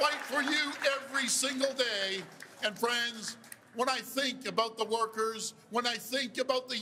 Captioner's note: cheers and Applause